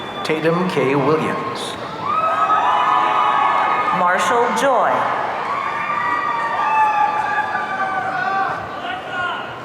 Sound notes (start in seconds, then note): 1.0 audience cheering